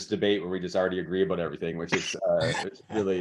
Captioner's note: laughs